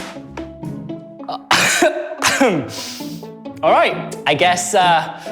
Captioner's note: coughs